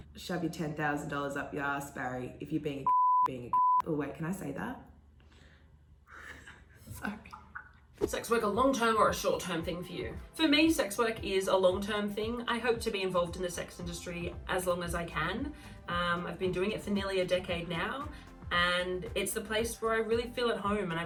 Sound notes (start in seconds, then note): 2.8 beeping; 6.1 laughing shamefully